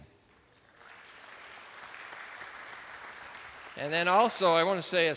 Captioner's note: attendees applauding